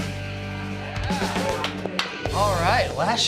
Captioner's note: applause